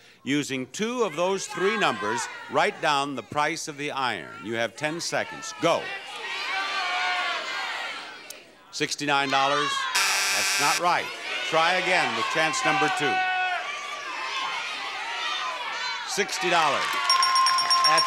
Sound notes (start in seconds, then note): 5.3 audience shouting numbers; 9.9 buzzer blares; 13.3 audience shouting numbers; 17.0 bell dings